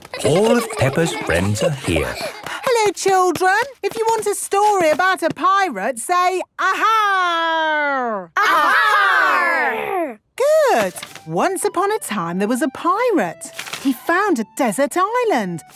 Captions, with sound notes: All of Peppa's friends are here. - (excited babbling) - Hello children! If you want a story about a pirate, say, "Ahaaaaarg!" - (all shouting) "Ahaaaaarg!!" - Good. Once upon a time, there was a pirate. He found a desert island!